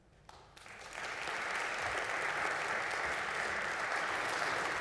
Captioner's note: audience clapping